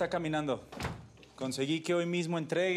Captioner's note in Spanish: ruido al cerrar